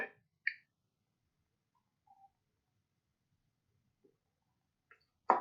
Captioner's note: pause